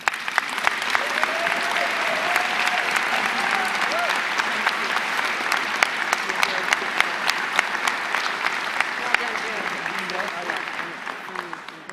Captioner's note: applause